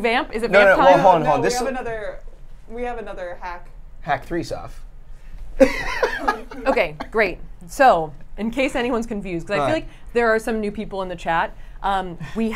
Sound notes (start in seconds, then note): 5.6 laughs